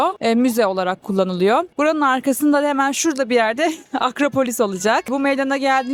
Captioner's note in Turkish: kahkaha